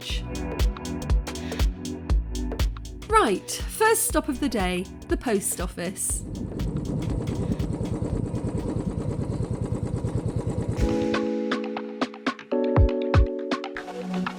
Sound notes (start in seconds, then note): 6.2 bike engine; 10.8 chill music